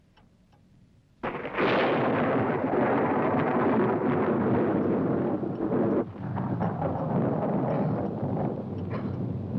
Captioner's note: thunder rolls